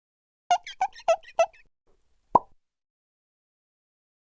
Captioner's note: squeaking